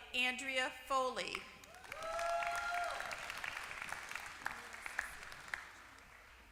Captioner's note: applause